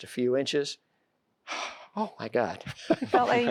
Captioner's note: sighs; laughter